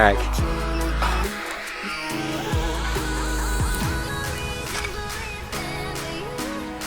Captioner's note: grunts